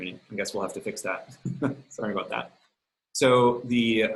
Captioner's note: softly chuckles